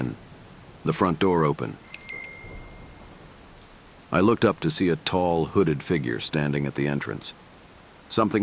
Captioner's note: front door bell